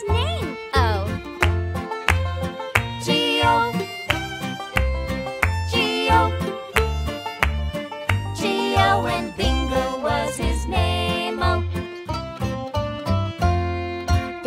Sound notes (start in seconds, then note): 3.3 clap